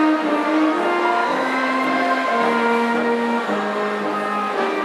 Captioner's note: audience cheering